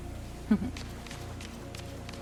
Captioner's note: chuckles